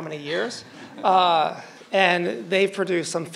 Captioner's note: crowd laughing